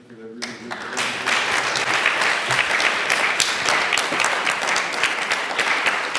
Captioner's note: applause